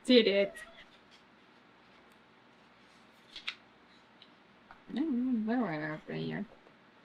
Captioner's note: cats meow